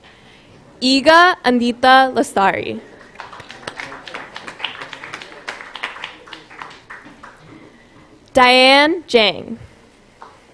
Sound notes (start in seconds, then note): 2.9 applause